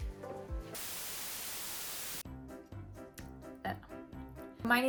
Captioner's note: static crackling